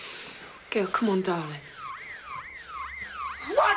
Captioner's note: siren wailing